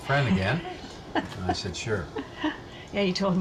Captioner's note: laughing